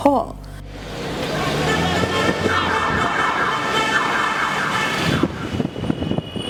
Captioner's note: siren